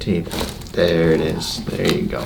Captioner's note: bones cracking